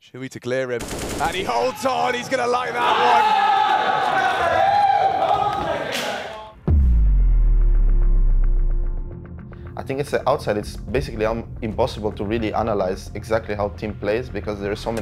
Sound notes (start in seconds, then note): 1.2 Vitality cheering